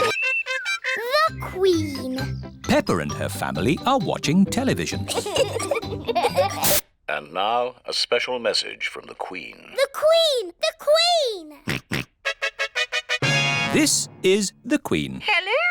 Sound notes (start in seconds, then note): 5.0 both giggling; 11.6 snorts; 12.2 trumpet fanfare on tv